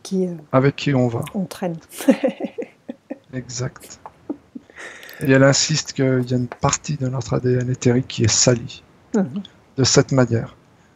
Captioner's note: laughs